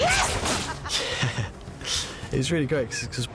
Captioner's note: chuckles